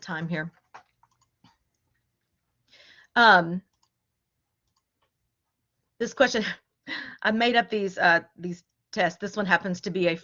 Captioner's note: laughter